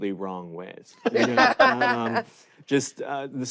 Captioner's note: hosts laughing